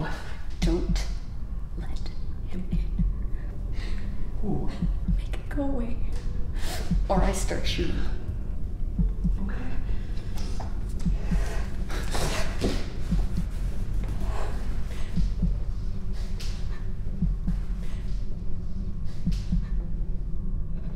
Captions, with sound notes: - What? - Don't let him in. - Who? - Make him go away, or I start shooting. - Okay. (Jamie breathing hard) (heart pounding)